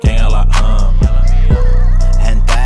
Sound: anime Girl Moaning

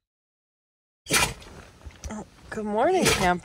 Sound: Camper sneezes; Camper sneezes

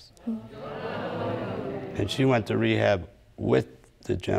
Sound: audience exclaims

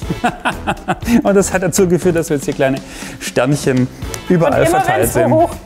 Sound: laughs

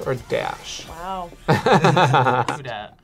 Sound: both laugh

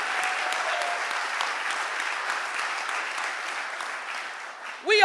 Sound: audience applauding

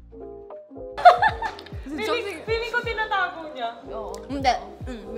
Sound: laughs

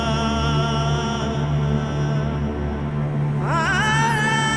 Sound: quavering voice continues

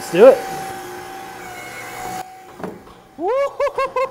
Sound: Gyro Ball whirls

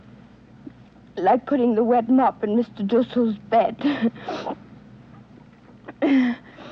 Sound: chuckles

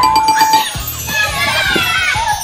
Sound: bell dings; kids cheering

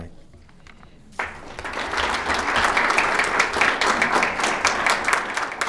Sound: attendees applauding

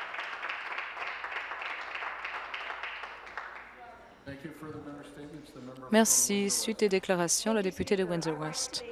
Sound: some Applause

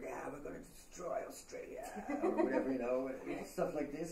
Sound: laughing

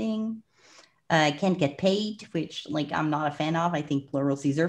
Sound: breath

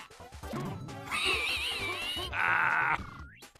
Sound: Luigi, like the monster that he is, laughs at the dying fat italian

